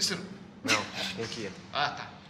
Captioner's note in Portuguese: risos